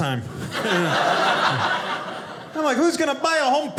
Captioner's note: audience laughing